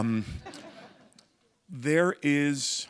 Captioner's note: laughter